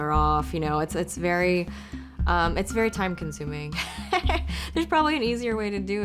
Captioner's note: laughs